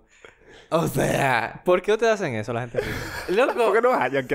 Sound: laughs

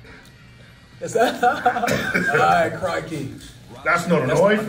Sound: laugh

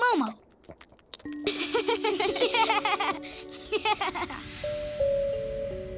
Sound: laughing

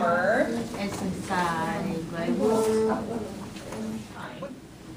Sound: voiceover

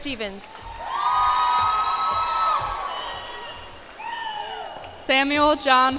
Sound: cheers and applause

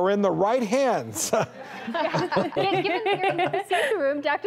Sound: audience laughs

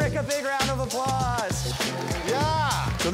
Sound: applause

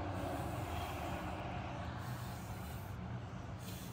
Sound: blowing air

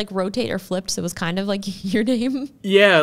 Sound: chuckles

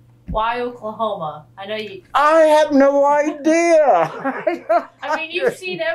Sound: laughs

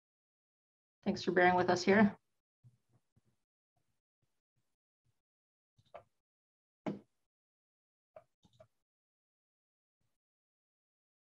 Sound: silence

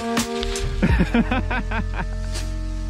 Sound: laughing

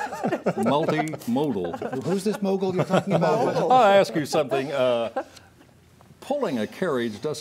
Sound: laughter

